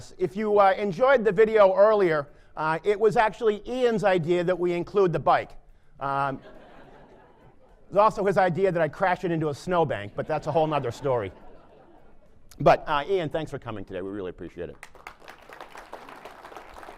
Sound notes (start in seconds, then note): 6.2 laughter; 16.7 applause